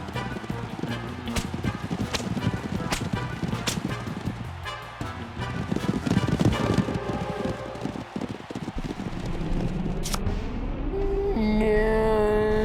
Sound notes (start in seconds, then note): 1.2 whipping noise; 5.1 thudding hooves